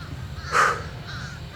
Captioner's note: exhales